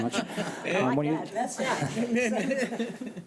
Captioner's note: laughing